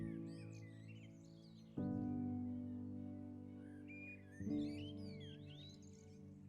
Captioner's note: birds sing; serene music